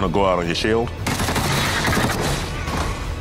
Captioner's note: gunshots roaring